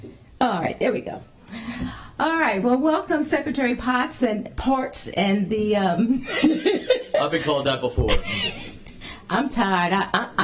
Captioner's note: laughter